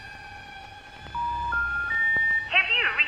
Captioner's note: phone cranking; busy signal beeping